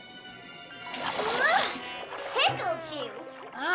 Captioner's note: gasps